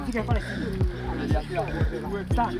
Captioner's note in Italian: chiacchiere indistinte